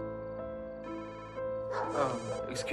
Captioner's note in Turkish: telefon çaliyor